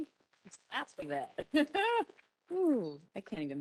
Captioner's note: chuckles